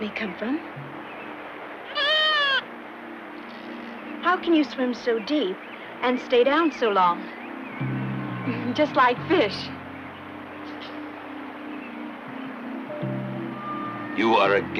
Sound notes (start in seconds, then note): 1.8 animals whines; 8.5 chuckles